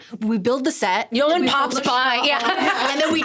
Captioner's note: laughing